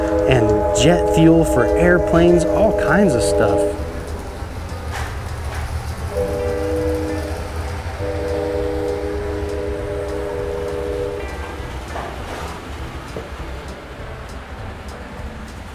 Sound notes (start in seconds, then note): 6.2 train horn blares; 6.2 upbeat music continues